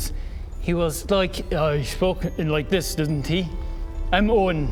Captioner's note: voice modulating